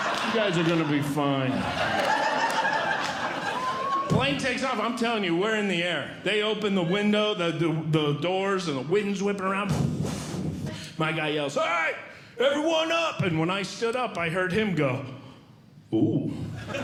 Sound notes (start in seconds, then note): 1.9 audience Laughing; 10.0 blowing